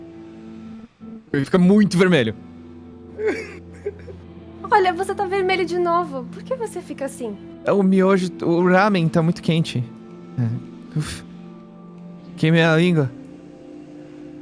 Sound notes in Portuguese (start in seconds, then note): 10.9 uff